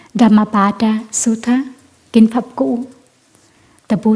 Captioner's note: vietnamese words